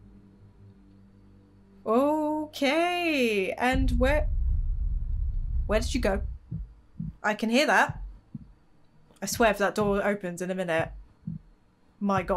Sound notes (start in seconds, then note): 7.8 heart beating